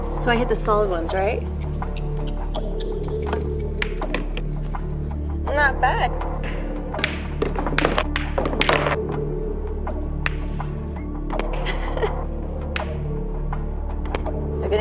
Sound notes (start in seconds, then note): 6.4 balls rattling; 11.5 Trudy laughs